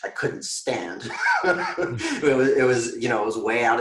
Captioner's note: giggling